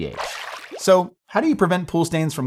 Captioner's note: water splashing